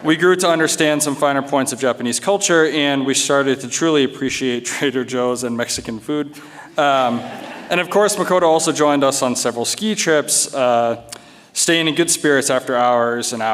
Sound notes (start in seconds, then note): 6.4 audience chuckles